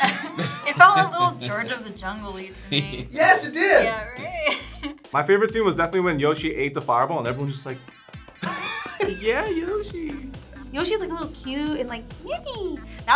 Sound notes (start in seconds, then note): 4.0 laughs; 7.7 React laughs